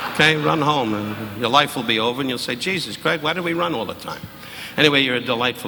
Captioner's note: audience laughing